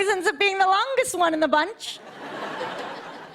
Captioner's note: light laughter